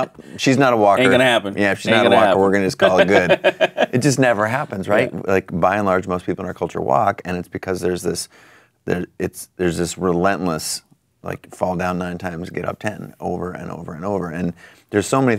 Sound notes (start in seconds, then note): 5.2 laughing